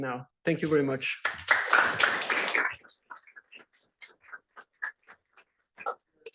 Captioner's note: applause